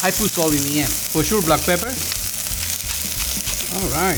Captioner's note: pan sizzling